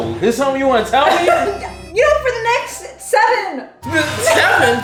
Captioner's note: laughs